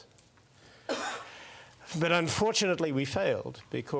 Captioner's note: cough